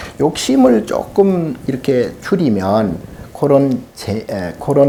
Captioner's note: speaking Korean